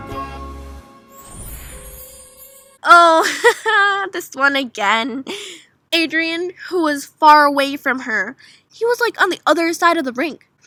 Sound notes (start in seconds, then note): 1.1 sparkle